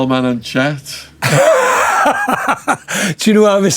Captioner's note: laughing